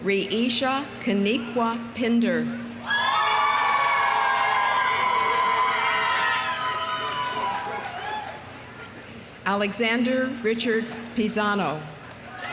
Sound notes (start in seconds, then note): 2.8 audience cheering; 3.2 audience applauding